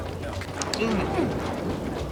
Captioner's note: groans